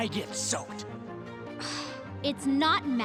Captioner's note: sighing